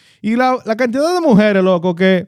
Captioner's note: speaking In Foreign Language